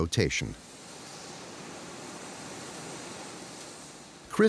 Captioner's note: steam hissing